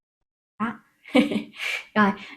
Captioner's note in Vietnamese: tiếng cười